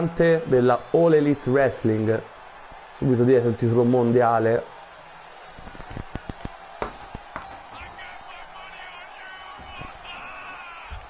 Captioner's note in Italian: Applauso